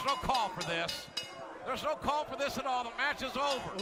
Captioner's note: bell ringing